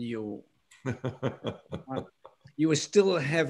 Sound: laughter

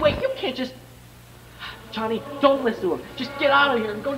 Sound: sigh

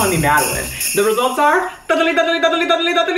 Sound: imitating drum roll

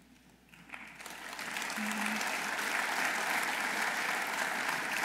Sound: audience applauding

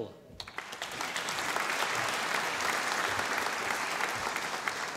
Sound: audience applauding

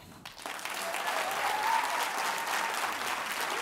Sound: audience applauds; audience cheering

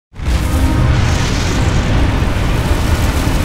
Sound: fire roaring

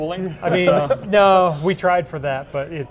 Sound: laughs

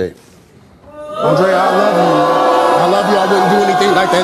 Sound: audience boos

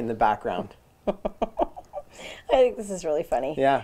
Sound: chuckles

